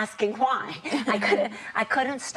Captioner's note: laughing